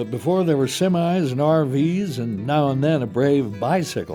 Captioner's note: voiceover